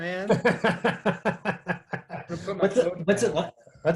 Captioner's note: laughter